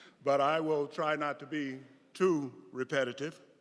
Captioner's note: none